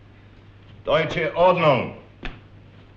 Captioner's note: German spoken audio